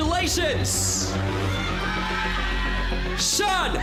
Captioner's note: audience shouting